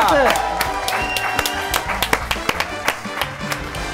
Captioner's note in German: Jubel, Applaus